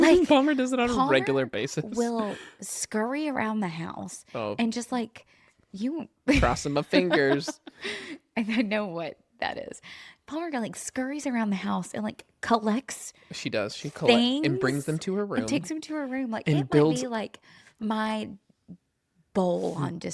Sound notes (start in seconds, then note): 1.0 laughs; 6.4 laughs